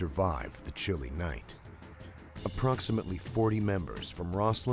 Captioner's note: voiceover